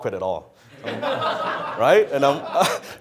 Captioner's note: audience laughs